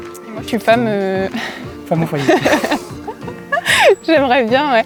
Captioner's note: laughs